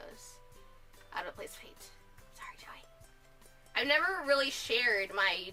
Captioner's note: whispers